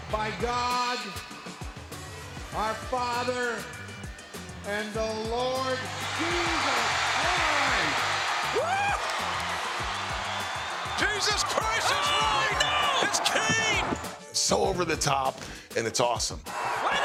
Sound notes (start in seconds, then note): 7.4 crowd cheers